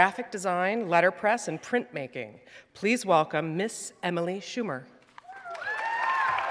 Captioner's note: audience members cheer and applaud